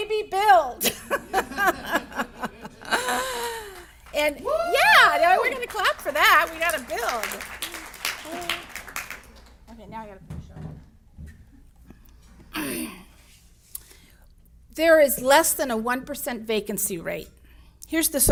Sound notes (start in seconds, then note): 0.8 laughs; 4.4 audience member yells